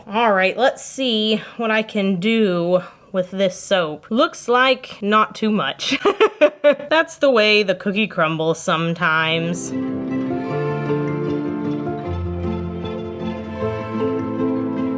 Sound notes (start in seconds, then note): 5.9 laughing; 9.7 upbeat music